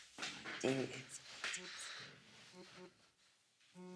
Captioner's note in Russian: телефон вибрирует